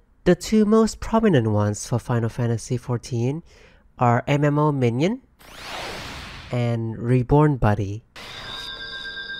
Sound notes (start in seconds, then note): 5.1 Minion summoning noise; 8.2 raise sound effect